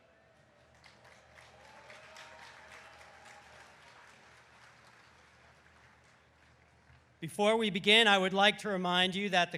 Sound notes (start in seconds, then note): 0.6 audience applauding